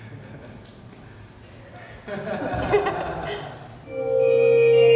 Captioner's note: laughter